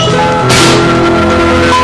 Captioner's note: Benj slams door